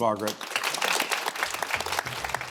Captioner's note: audience applauds; pleasant music